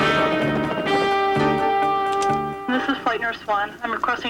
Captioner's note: radio